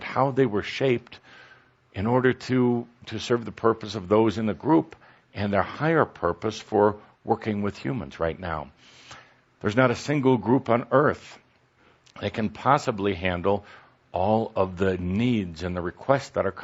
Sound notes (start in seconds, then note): none